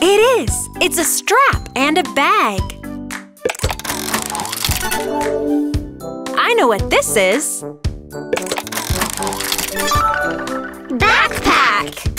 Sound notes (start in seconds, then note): 3.5 turning sound; 8.4 turning sound